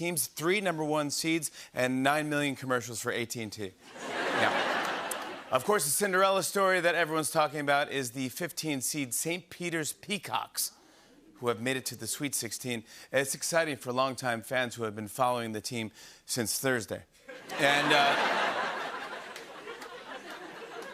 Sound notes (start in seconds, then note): 17.3 laughter